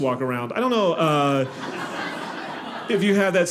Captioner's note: audience laughing